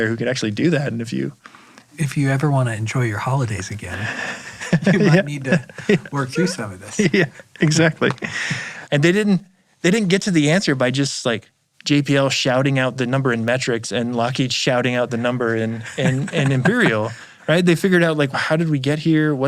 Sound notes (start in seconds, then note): 3.9 laughing